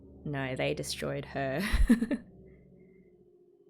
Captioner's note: laughs